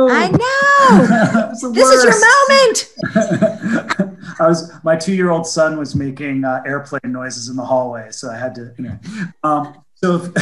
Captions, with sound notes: - I know. This is your moment. (laughs) - My two year old son was making airplane noises in the hallway. So I had to...